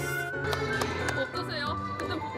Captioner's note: clapping